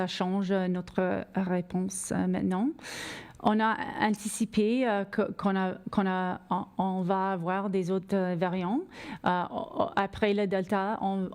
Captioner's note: speaking French